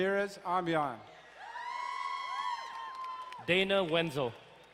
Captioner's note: crowd cheering and applauding